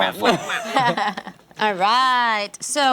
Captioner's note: laughter